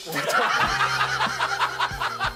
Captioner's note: haha